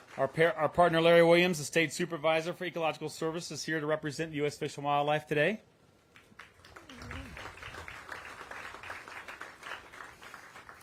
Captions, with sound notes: Our partner, Larry Williams, the state supervisor for ecological services here to represent US fish and wildlife today. (applause)